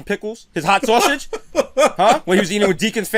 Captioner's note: laughter